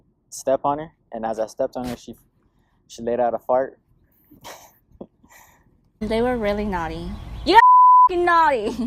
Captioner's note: laughs